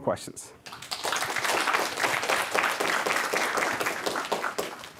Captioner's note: applause